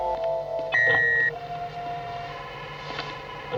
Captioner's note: porta emite um sinal sonoro